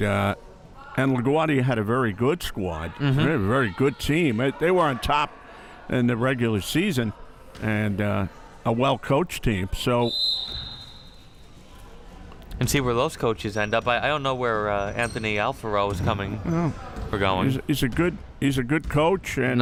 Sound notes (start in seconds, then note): 10.0 whistle chirping